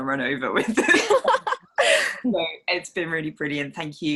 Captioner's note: panelist laughs